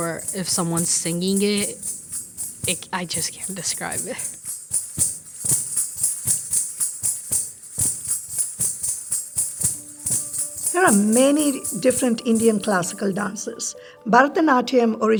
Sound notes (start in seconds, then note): 5.4 bells chiming continues